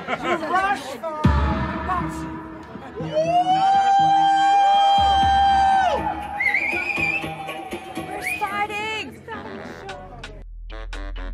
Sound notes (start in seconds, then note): 3.0 cheering; 3.2 crowd